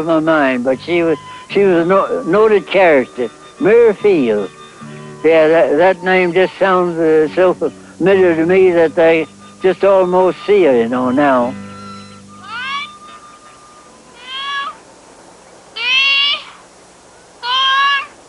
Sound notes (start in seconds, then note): 12.7 shouting